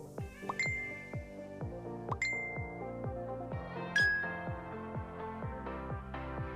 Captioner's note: upbeat music; bell chiming